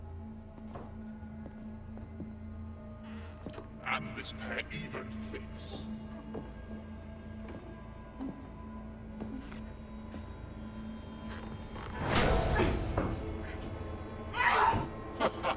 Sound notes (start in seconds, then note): 3.2 stairs creaking; 12.2 intense music; 14.4 Linda yelping; 15.1 leprechaun laughing